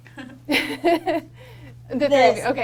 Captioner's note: cast laughs